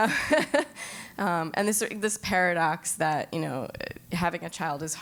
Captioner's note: laugh